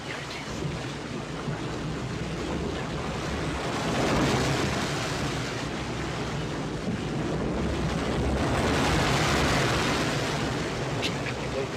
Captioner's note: wind & waves